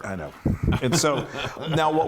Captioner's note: laugh